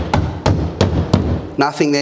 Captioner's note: knocking